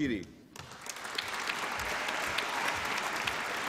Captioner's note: applause